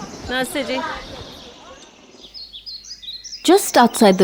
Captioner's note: birds chirping; birds chirping